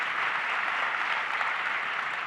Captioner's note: applause